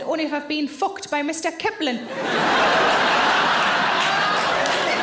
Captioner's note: audience laughing